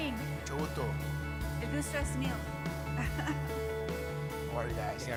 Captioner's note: speaks in foreign language